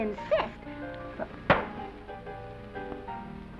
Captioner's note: smack